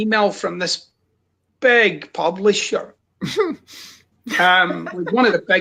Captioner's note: chuckles